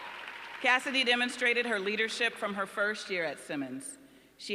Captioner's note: applause